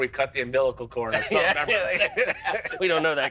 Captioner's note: laughter